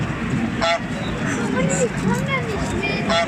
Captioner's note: honk